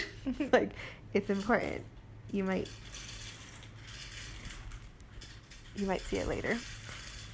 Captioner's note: kitty food dispenser noises